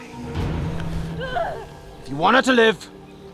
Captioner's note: Lucia groans